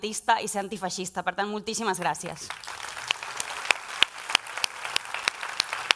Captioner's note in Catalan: aplaudiments